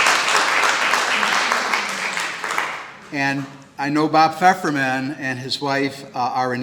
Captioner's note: clapping